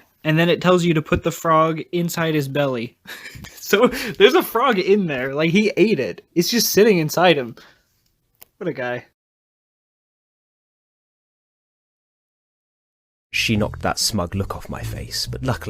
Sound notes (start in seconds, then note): 3.1 laughing